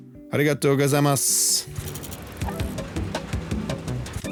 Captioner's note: speaking Japanese; uplifting music